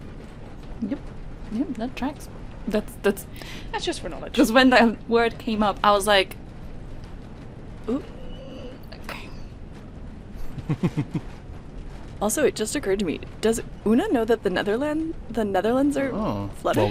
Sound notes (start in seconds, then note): 6.3 strained noise; 10.0 chuckles